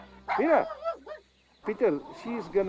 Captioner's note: barks